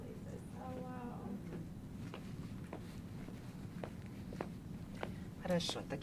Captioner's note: mumbling